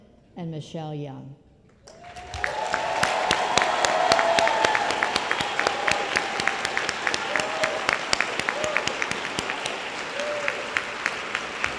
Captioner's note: applause